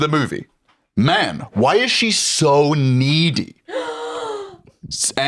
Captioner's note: gasps